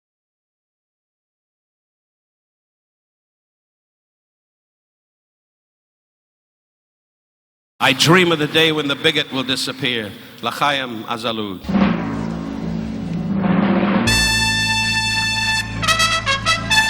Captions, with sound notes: - I dream of the day when the Bigot will disappear. (Don speaking in a foreign language) (uptempo dramatic music)